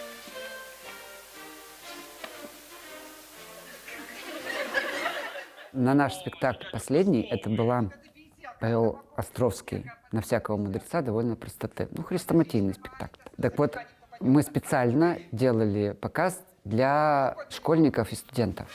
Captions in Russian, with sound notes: (звучит фоновая музыка) (звучит смех) На наш спектакль последний, это был по Островскому "На всякого мудреца довольно простоты", хрестоматийный спектакль. Так вот мы специально делали показ для школьников и студентов.